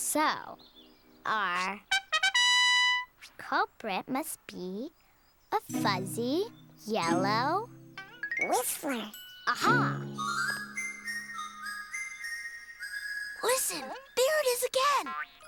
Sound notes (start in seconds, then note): 2.0 plays fanfare; 10.2 whistling